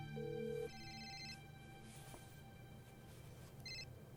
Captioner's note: cellphone ringing